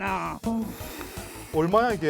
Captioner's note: inhale, exhale